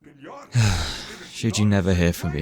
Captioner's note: sigh